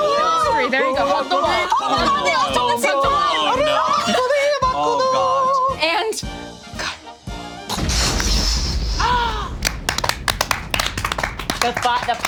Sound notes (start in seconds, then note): 7.7 explosion booming; 9.2 everyone applauding